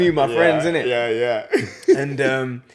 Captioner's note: laughs